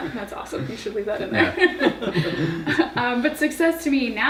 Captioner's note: laughing